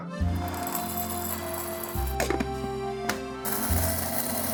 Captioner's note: beans clinking; machine rumbling